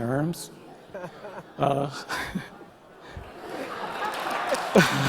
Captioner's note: audience applause